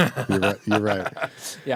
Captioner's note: laughing